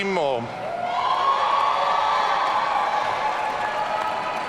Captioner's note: audience cheering